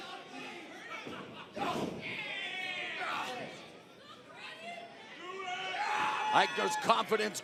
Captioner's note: crowd chatter